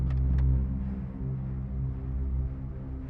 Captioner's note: car door clicks open